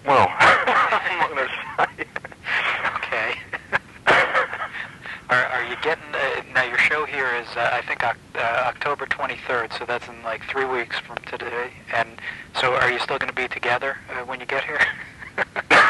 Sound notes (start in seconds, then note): 0.3 both chuckling